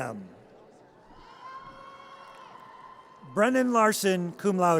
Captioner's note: audience cheers